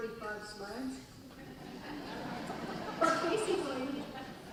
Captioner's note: laughing